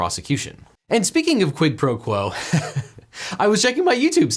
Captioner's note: laughs